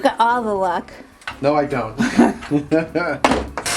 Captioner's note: chuckles